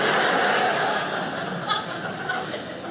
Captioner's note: audience laughing